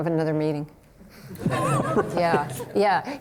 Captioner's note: crowd laughing